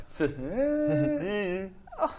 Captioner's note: nyahh